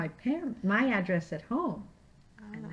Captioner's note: none